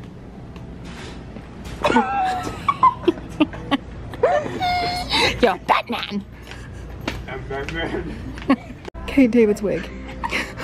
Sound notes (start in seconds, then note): 1.8 laughs